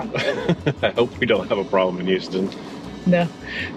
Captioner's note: laughs